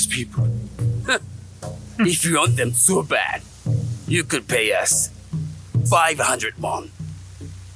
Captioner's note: scoffs